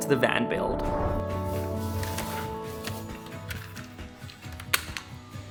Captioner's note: cardboard scratching